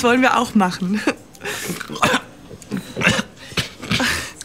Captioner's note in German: verschluckt sich